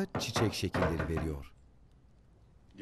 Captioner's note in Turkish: Kapı vurma sesi